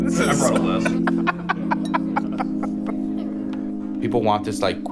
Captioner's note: laughs